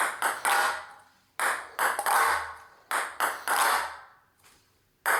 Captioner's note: ball bouncing